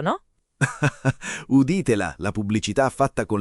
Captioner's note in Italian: Haha